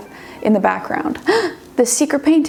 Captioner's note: gasps